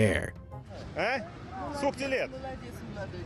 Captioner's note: passerby speaks in foreign language